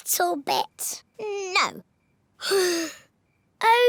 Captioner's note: sighs